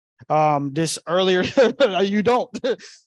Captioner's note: chuckles